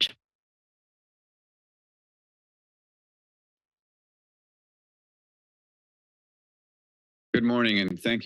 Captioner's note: silence